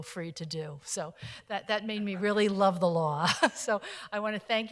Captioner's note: laughing